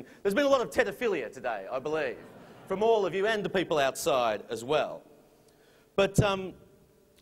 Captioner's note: laughter